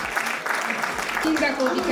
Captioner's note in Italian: applauso